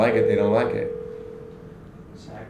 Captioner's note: phone ringing